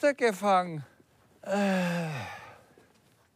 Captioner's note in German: Stöhnen